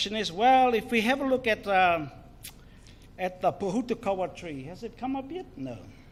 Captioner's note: speaks in foreign language